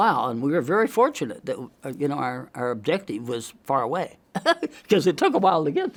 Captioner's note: laughs